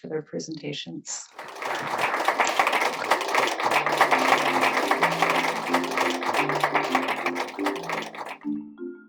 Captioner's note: applause